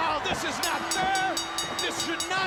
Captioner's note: bell ringing